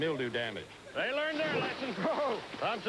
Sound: pool splash

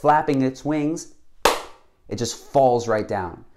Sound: hands clap

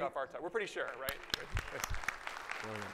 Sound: audience applause

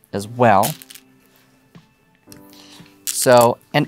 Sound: stones clattering

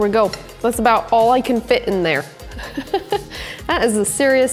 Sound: chuckles

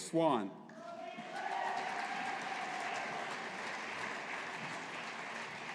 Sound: audience applauding

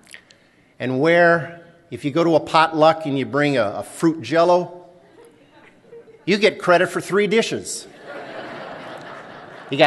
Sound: laughter

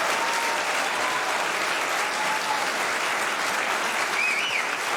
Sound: applause

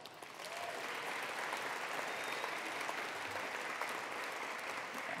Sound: attendees applauding

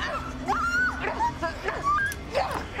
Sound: screaming; both grunting

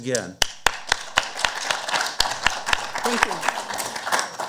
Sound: audience applauding

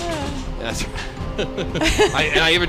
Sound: laughing

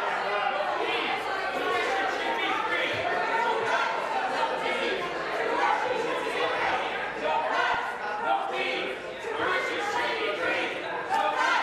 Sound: crowd Noise

